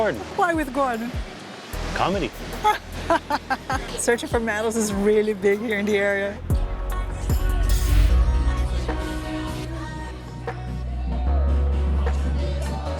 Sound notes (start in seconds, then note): 2.6 laughs